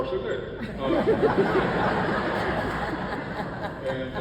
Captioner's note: audience laughs